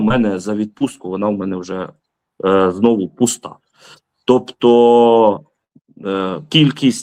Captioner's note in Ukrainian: сопіння